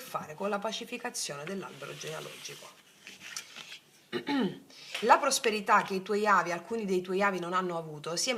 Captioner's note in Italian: schiarire la voce